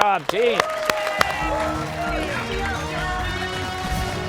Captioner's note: cheers and applause